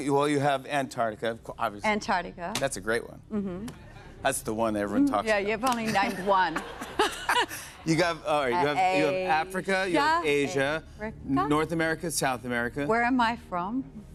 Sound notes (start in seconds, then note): 5.8 laughter